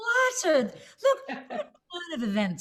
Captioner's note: laughter